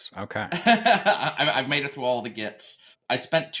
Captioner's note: laughs